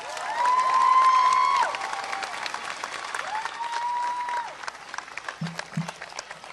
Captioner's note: applause